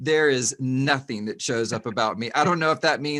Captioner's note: laughs